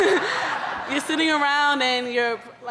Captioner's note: laughing